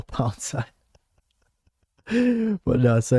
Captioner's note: laughs